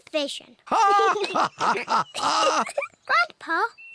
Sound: both laugh; laughs

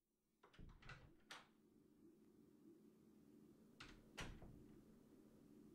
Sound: door opens and closes

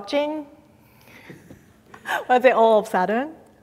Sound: giggles

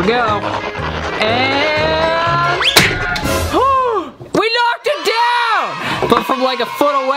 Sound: gasps

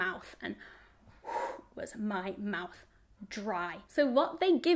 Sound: exhales heavily

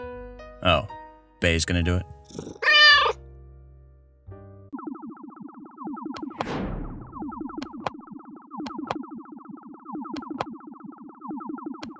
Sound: distant meow

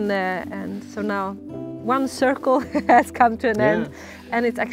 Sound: laughs

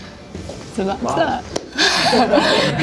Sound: fighting Back Tears

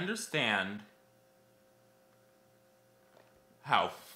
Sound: silence

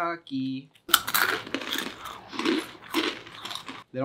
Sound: chips crunching

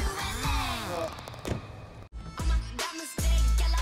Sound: car door shuts

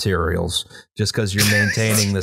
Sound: laughter

